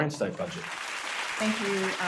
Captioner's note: audience applauding